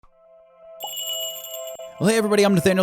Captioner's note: magical jingle